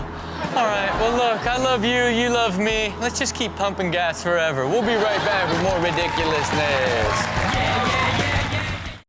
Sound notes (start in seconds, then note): 4.9 audience claps